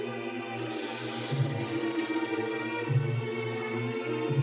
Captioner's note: door creaking